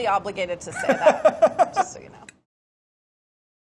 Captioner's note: Mark laughing